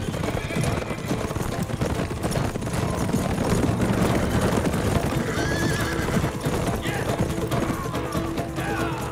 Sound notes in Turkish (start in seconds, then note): 3.7 At nalı sesleri